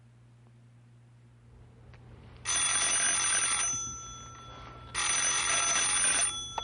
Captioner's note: phone ringing